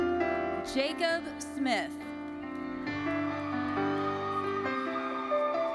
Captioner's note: audience cheering